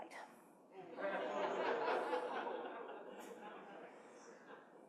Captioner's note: participants laughing